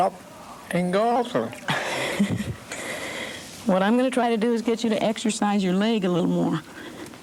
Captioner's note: laughs